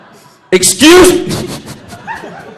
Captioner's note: laughs